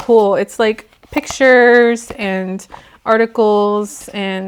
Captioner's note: flipping pages